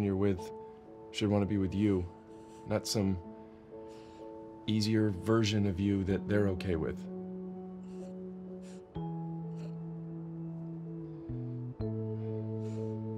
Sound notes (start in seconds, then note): 7.3 sniffling